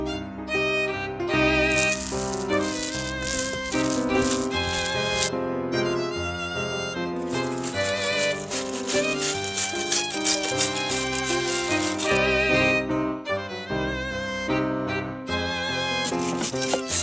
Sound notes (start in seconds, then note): none